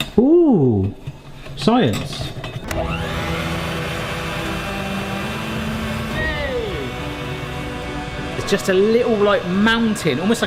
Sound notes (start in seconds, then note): 2.6 mixer whirring; 2.6 dramatic music